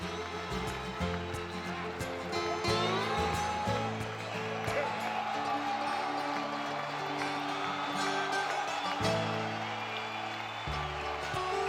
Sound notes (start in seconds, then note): 0.0 whimsical music; 4.0 crowd cheering